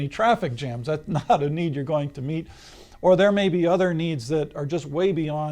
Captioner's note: laughs